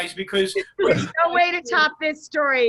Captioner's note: laughs